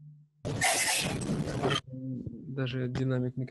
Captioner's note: interference